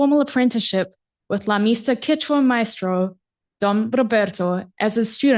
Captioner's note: non-english speech